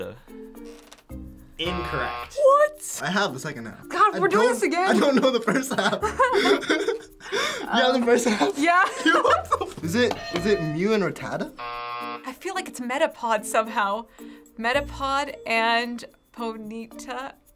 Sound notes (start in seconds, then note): 9.1 cracking up; 11.6 buzzer